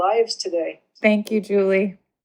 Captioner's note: on Zoom call